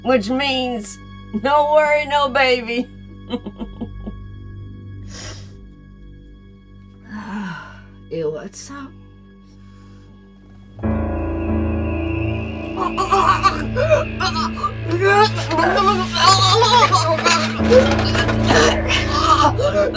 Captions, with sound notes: Which means, no worry, no baby. (laughing) You want some? (suspenseful music) (Betsy choking) (tray rattling)